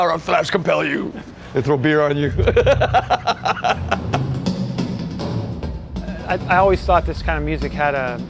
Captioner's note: laughter